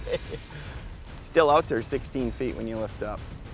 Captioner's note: laughing